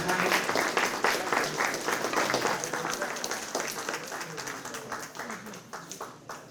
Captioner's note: applause